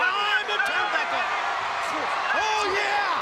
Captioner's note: crowd cheering